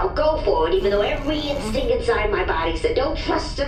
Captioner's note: Beano starts to groan miserably